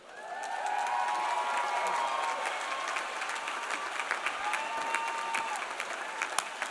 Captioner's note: audience applauding; audience cheering